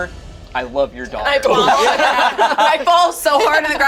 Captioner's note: group laughs